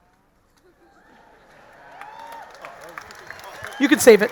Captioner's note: audience laughing; audience cheering